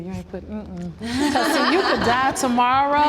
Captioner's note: laughs